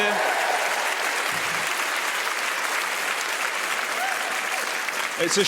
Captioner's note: audience cheers